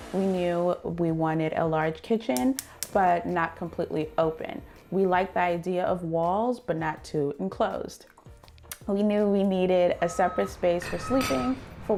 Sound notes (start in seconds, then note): 2.7 stove burners igniting; 9.9 truck beeping